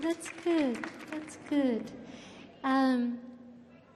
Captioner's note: audience clapping